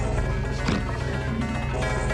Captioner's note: Buddy snorts